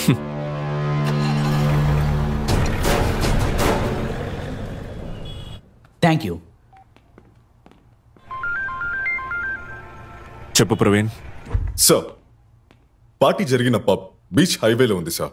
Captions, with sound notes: (Car Starting Sound) Thank you. (Phone Ringing) Tell me, Praveen. Sir, the pub where the party has held is on the beach highway.